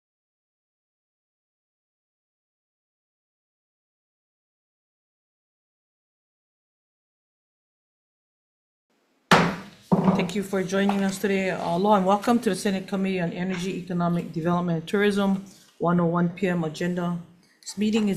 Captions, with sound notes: (gavel bangs) - Thank you for joining us today. Aloha and welcome to the Senate Committee on Energy, Economic Development and Tourism 1:01 PM agenda.